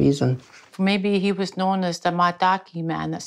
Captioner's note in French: rire